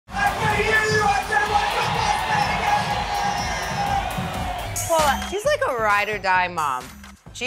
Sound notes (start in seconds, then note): 3.3 audience cheering; 4.1 upbeat party music